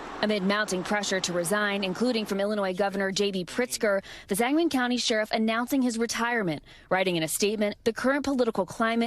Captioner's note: sound of gunfire